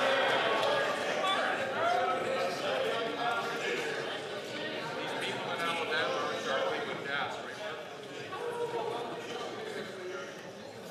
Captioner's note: some Applause